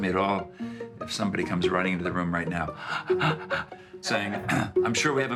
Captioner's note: gasping